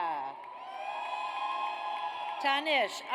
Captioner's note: audience cheers